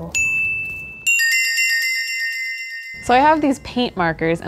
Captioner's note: bells tinkling